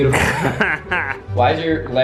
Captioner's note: laughing